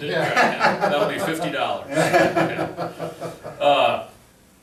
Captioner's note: laughs